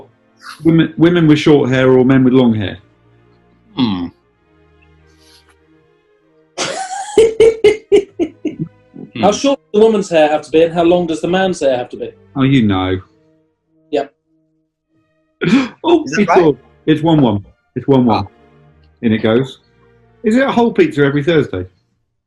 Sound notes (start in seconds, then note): 6.6 giggling; 15.5 gasps